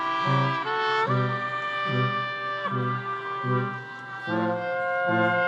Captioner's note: audience cheering continues